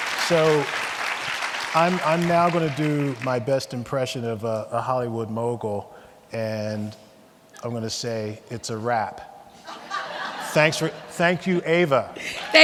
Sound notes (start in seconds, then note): 0.0 audience clapping; 9.6 audience laughing